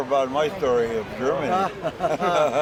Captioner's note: laughter